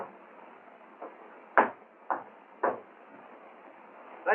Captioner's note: tapping